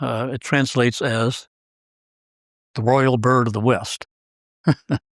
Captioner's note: laugh